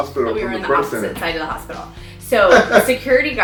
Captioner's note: laughs